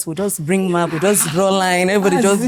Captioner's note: laughs